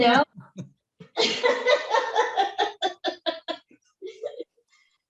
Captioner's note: laughs happily